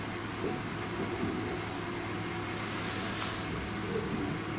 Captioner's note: eerie whirring